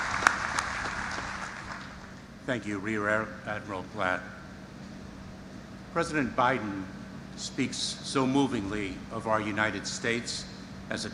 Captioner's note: applause